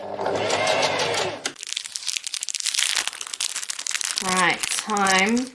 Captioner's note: packaging crackles